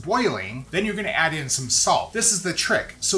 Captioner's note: water boiling